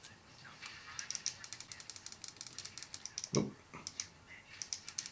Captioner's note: button tapping